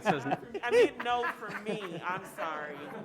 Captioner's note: laughs